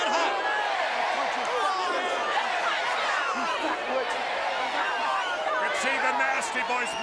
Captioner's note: crowd chatter